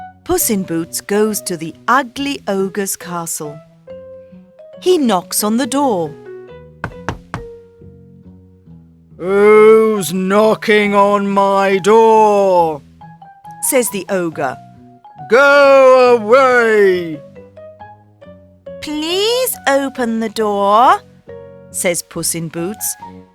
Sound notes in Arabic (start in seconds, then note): 6.8 خبط على الباب